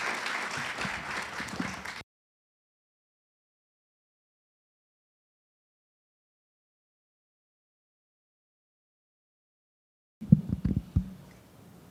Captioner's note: audience applauds